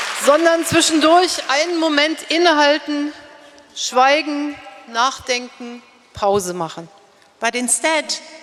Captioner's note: speaking in German